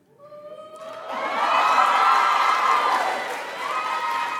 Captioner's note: audience applauds